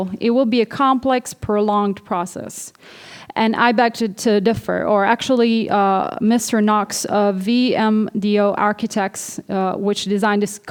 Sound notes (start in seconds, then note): none